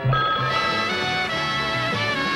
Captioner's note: alarm clock ringing; big band music